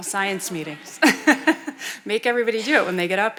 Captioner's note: chuckling